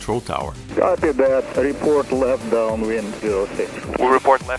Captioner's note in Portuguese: rádio